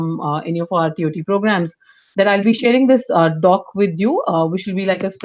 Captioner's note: ? knock ?